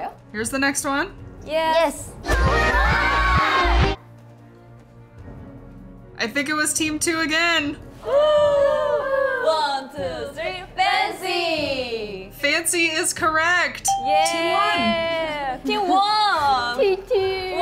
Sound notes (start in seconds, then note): 2.7 members shout; 8.0 Team 2 cheers